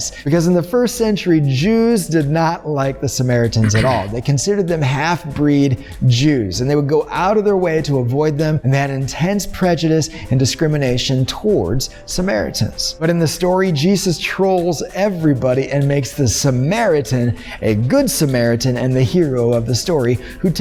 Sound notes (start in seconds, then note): 3.6 clearing throat